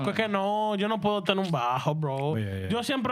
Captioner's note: speaking In Spanish